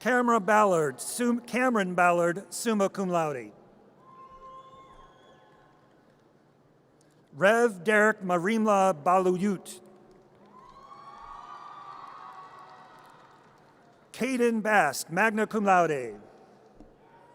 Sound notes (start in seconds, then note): 0.0 audience cheers; 4.2 audience cheers; 10.5 audience cheers